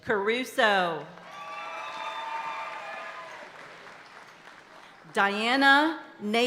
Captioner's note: audience applauding and cheering continues